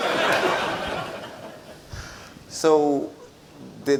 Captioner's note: audience laughs